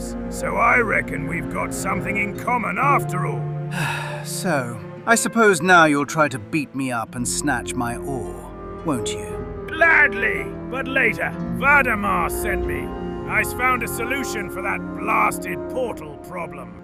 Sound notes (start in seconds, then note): 3.7 sighs; 9.6 excited